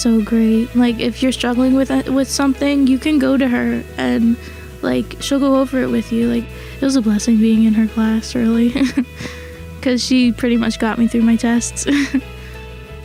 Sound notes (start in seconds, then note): 8.6 laughs